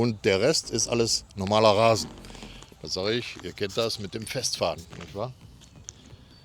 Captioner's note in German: schnauben